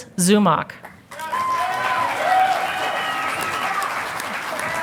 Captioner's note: audience applauding